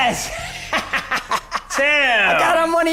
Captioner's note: laughing